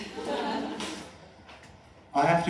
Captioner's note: laughter